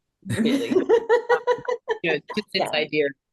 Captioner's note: laughs